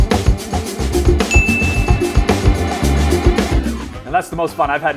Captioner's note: bell dinging